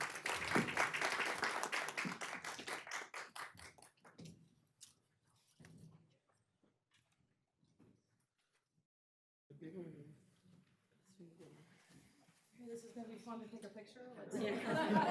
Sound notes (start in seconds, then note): 3.2 applause